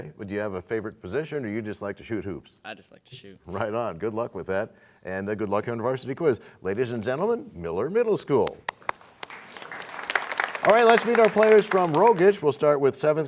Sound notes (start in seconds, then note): 8.6 applause